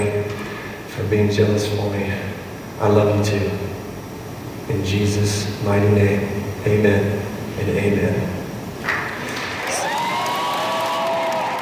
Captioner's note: audience cheers